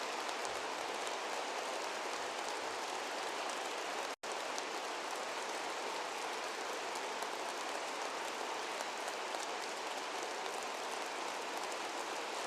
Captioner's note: applause